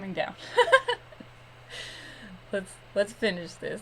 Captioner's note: giggles